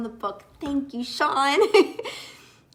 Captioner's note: giggles